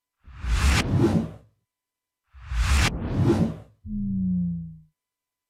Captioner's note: computer digital swooshing